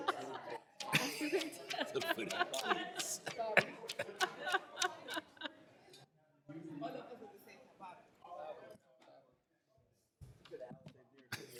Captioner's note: laughter